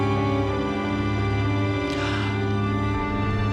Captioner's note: gasps